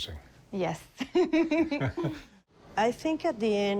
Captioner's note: chuckles